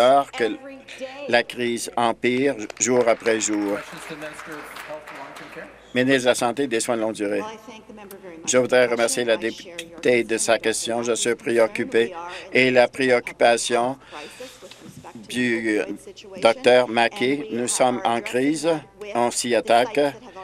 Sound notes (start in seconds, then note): 4.5 applause